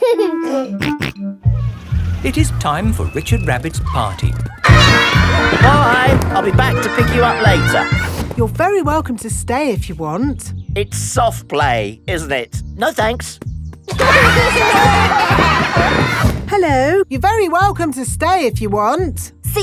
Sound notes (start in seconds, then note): 0.2 giggling and snorting; 13.9 laughter